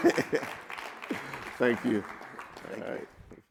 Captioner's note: laughs; audience clapping